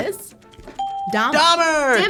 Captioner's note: ping